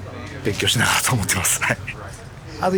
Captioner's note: laughs